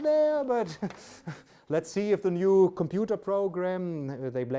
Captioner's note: laughs